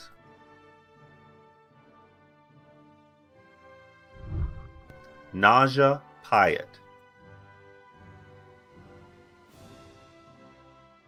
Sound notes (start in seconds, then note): 0.3 celebratory music; 4.1 whooshing; 7.3 celebratory music